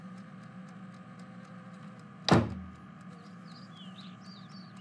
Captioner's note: door open and close